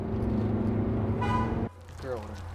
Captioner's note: car beeps